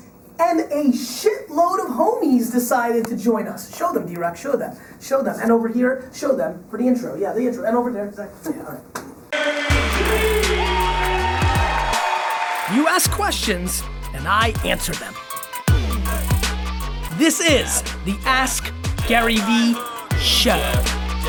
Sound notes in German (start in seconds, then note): 9.3 Jubel und Klatschen; 9.4 Basslastigen Musik; 15.3 Basslastigen Musik